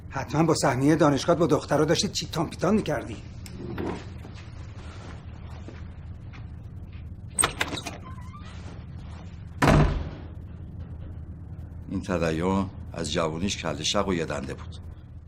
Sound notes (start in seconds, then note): 7.3 door opening; 9.6 door closing